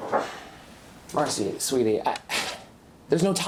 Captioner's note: sighs